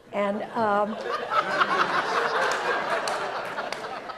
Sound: audience laughs

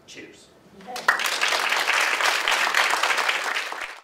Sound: audience: applause

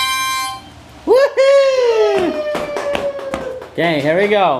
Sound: cheering

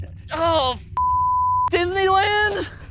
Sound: beep

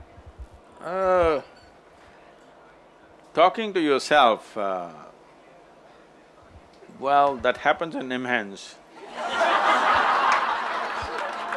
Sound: laughter/Applause

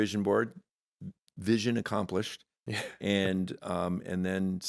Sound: chuckling

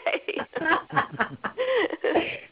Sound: laughter

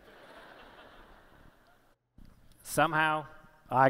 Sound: laughter

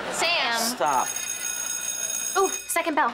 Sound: bell ringing

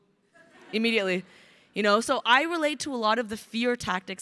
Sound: crowd laughing

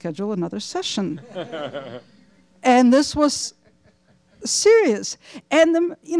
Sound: laughter

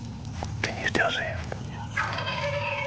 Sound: whispering

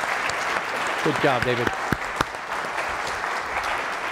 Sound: applause

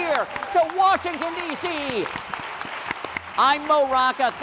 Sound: applause

